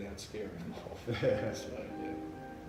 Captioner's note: laughs